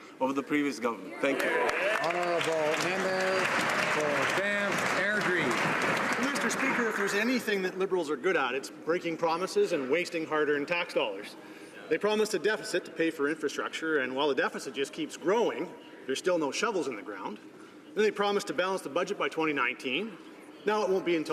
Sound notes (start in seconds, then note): 4.9 some Applause